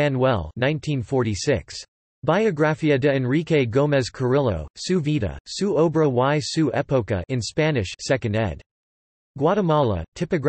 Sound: in Spanish

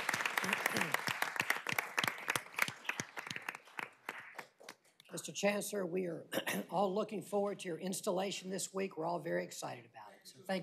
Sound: applause

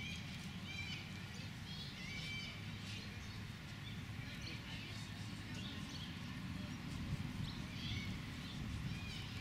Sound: human voices, traffic noise and birds squawking in background

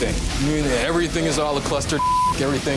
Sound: beep

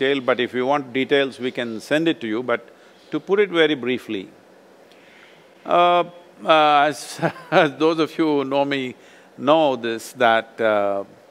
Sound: laughs

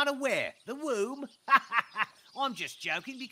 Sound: laughs

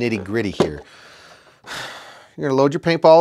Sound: sighing

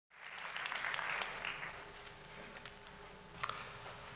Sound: applause

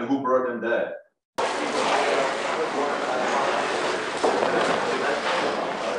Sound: paper shroud rattling

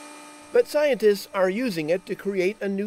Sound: voiceover

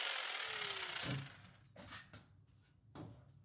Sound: steps on ladder

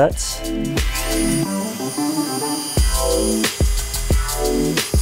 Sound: drilling sound

